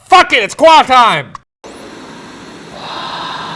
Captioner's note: static buzzing